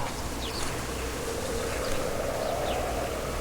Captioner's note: birds chirping; wind howling